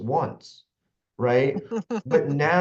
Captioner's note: laughs